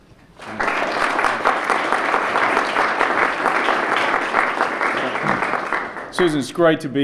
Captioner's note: applause